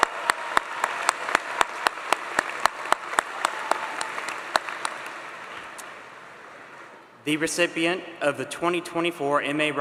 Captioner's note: applause